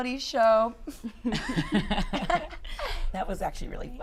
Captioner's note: laughter